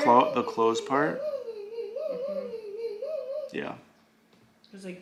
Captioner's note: baby mumbling